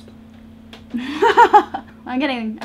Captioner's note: laughs